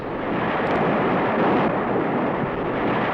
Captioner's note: waves crashing